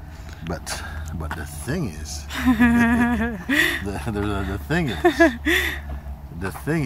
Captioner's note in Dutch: gelach